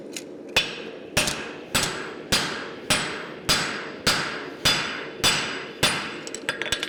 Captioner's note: sharp metallic hammering